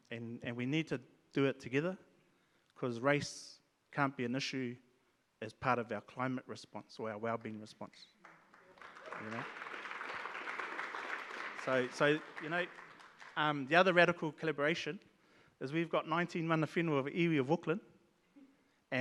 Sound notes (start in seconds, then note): 8.2 audience claps